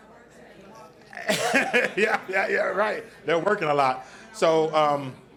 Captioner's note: chuckles; audience responds